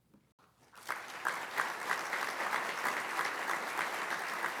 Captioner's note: applause